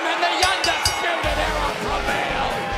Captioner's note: bell ringing